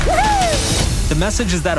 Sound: swimmer hoots

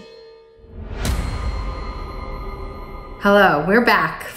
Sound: logo swooshing

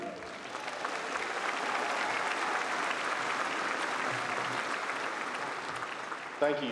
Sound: applause

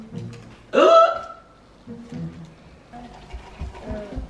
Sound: gasps

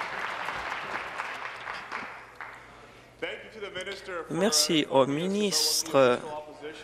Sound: applause

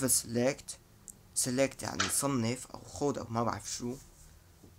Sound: translating in Arabic

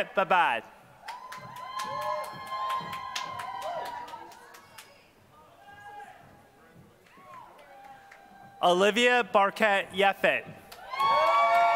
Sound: applause; applause

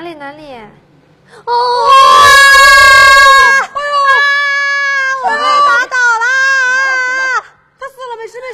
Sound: screams!

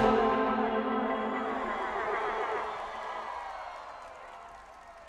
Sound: crowd cheers

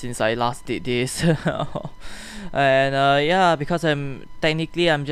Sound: more whining

